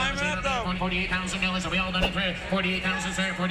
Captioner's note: auctioneer chant